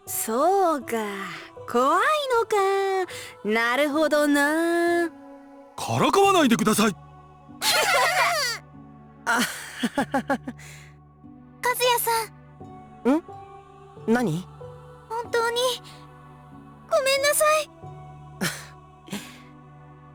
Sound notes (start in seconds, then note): 7.6 awkward laugh; 7.6 laugh; 19.1 sigh